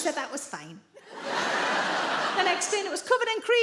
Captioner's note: audience laughing